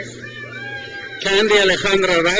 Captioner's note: crowd cheers